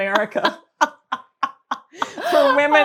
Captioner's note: laughs